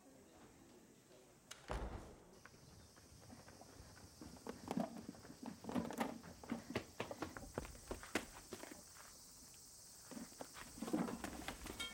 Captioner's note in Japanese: ドアが閉まる音